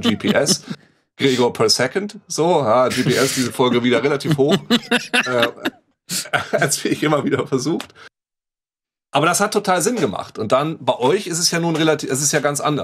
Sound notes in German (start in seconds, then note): 4.7 Lachen